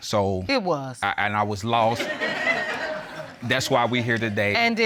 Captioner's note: audience laughing